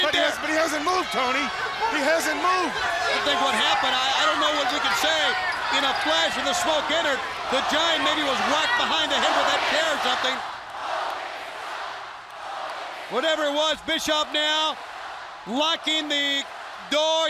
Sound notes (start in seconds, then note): 13.2 crowd chatter